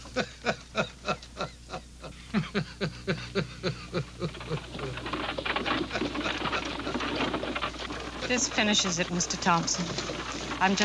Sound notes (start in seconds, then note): 0.5 neighbor laughing; 5.3 wagon rattling